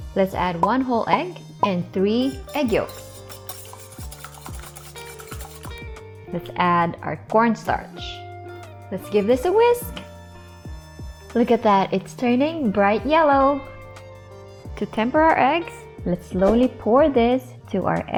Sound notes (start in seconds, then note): 2.4 whisking